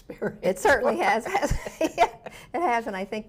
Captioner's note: laughs